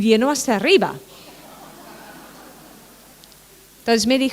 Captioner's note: laughter